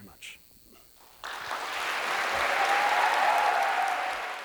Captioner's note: applause